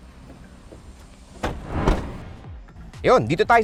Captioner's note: doors thud